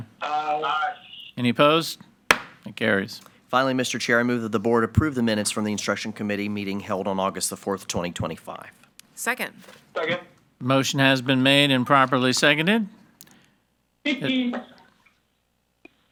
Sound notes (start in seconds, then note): 2.3 gavel bangs